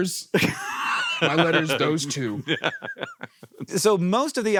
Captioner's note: laughs